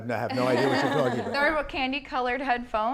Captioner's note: laughter